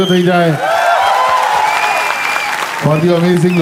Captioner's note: crowd applauding